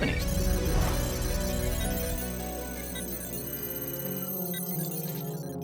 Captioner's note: computer calculating sound effect